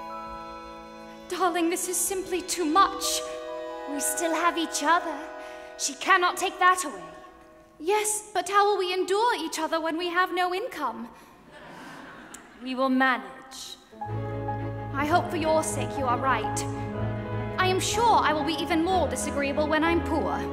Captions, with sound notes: - Darling, this is simply too much. - We still have each other. She cannot take that away. - Yes, but how will we endure each other when we have no income? (audience laughs) - We will manage. - I hope for your sake you are right. I am sure I will be even more disagreeable when I'm poor.